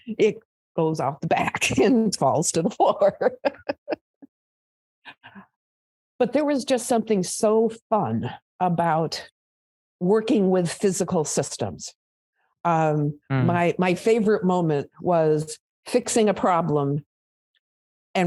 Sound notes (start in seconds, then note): 3.0 laughs